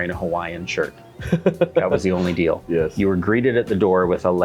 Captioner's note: laughs